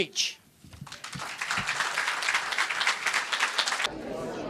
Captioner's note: applause